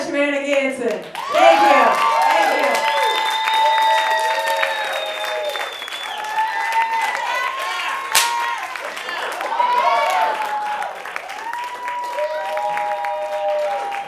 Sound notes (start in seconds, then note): 4.1 cheers and applause; 8.1 bang!